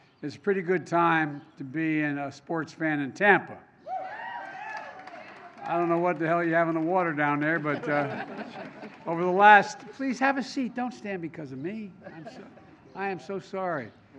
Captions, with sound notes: it's a pretty good time to be a sports fan in Tampa. (Applause.) I don't know what the hell you have in the water down there -- (laughter) -- but, over the last -- please, have a seat. Don't stand because of me. I am so sorry.